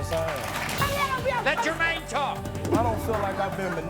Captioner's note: shouting